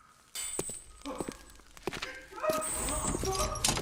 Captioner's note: frightened sounds